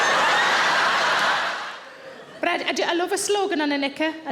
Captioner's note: audience laughs